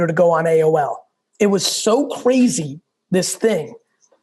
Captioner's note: none